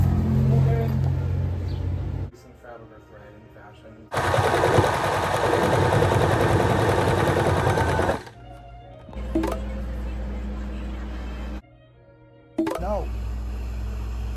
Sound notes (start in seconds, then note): 4.1 machine sews loudly; 9.0 Grindr notifications